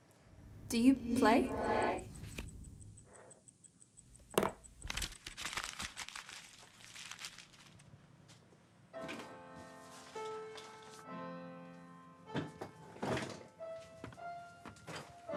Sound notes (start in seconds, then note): 4.7 crunching paper